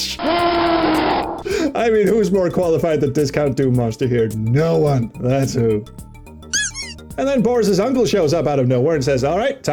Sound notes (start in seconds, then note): 0.2 baron of hell howls; 6.5 squeak